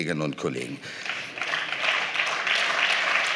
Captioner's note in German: Beifall